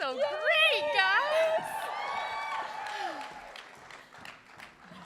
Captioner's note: applause and cheering